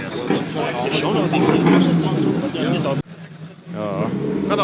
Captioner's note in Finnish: taustahälinää